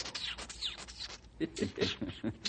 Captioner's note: chuckles